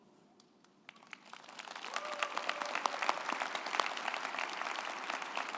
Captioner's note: group applauding